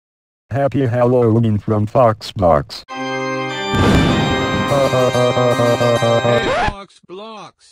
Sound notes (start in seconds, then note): 3.7 thunder clap; 4.9 evil laugh; 6.2 record scratch